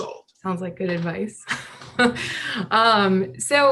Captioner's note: laughs